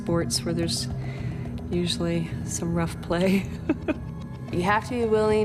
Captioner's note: laughs